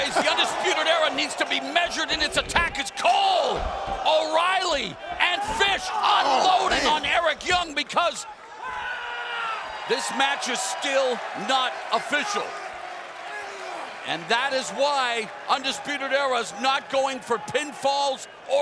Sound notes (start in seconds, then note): 8.6 wrestler screams; 9.4 fans cheering